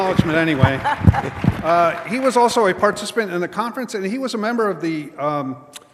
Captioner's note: applause